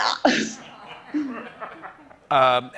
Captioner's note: chuckles; laughter